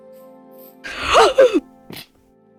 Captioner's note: gasp